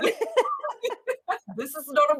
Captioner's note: chuckles